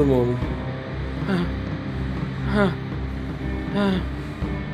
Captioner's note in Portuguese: gemendo e suspirando